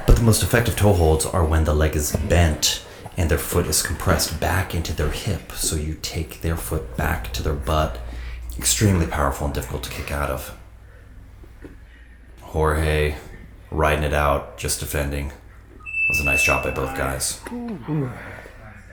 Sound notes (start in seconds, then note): 15.8 beep